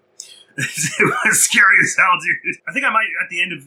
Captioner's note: laughs